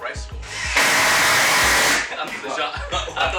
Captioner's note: drilling whirring; mumbled laughing